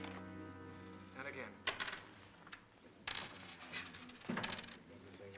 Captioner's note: ominous music; coins clatter